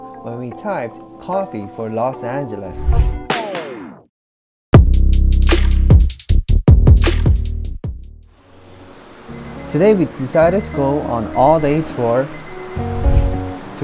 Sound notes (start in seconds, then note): 8.1 alarm